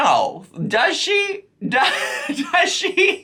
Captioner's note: laughs